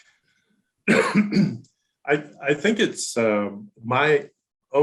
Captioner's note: coughs